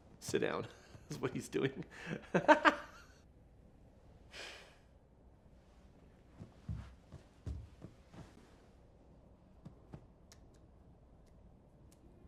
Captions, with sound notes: - Sit down is what he's doing. (Wednesday sighs)